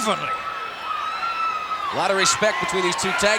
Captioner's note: attendees cheering